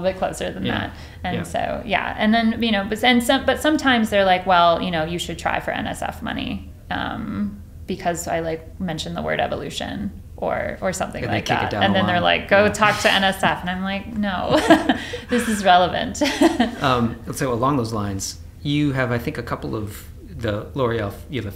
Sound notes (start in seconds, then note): 14.4 laughs